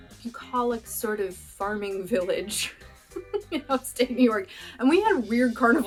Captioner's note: laughter